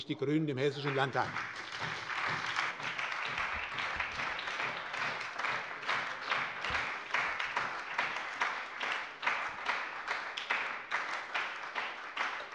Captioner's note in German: Beifall bei der SPD